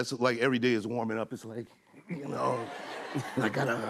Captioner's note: laughter